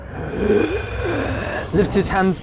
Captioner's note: raspy breathing